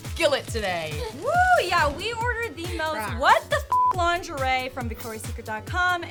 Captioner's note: beep